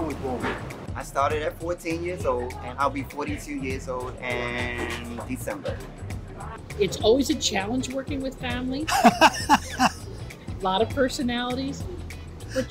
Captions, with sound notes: - I started at 14 years old, and I'll be 42 years old in December. - It's always a challenge working with family. (laughs) A lot of personalities,